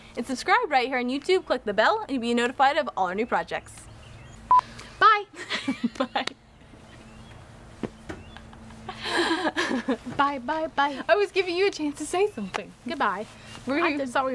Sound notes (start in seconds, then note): 4.4 beeping; 5.4 chuckling